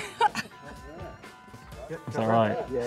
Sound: laughing

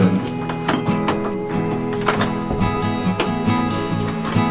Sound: keys clang

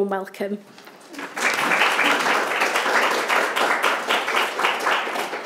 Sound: audience applauds

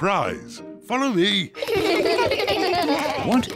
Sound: kids laugh

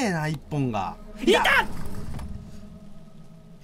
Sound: intense screaming

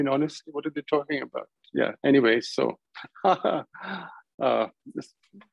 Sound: laughter

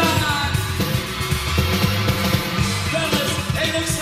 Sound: crowd screams in response

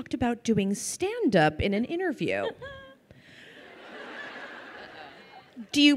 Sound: crowd laughing

